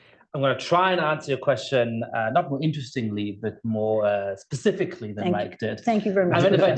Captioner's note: laughter